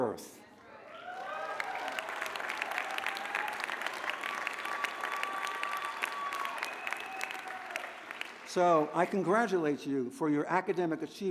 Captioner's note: applause